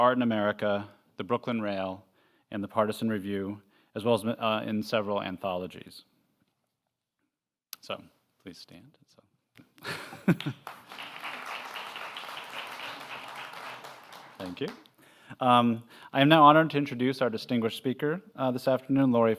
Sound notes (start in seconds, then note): 8.7 laugh; 9.9 applause